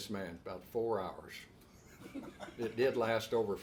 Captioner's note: laughs